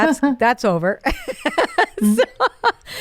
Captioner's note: laughing